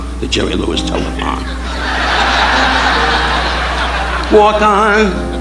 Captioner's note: audience laughing